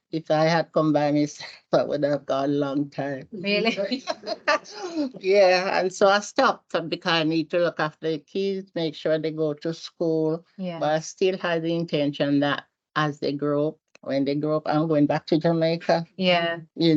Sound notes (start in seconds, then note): 3.6 panel laughs